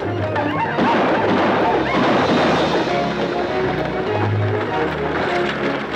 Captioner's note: dramatic orchestral music; Apaches howl; guns fire